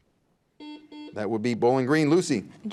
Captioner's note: buzzer beeps